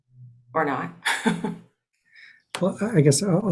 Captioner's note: laughing